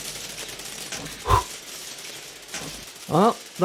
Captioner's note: blow on gun